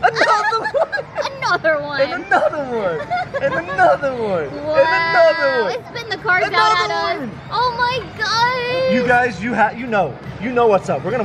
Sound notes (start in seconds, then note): 0.0 laughs; 2.7 laughs